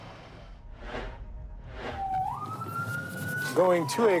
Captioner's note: siren